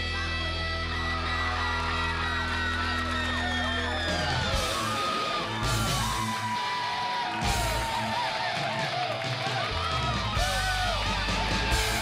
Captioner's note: crowd cheering